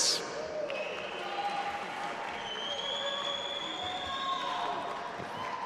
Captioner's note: audience applauding and cheering